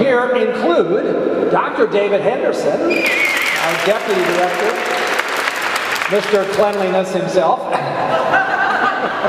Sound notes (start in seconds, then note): 2.9 whistling; 8.0 laughing